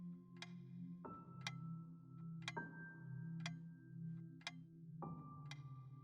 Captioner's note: ticking